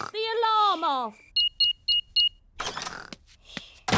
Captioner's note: beeping